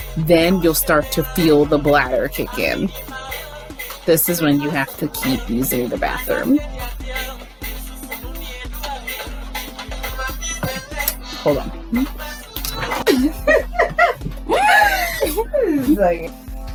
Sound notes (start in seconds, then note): 10.2 smacks mouth; 12.8 laughter off-cam; 14.2 inhales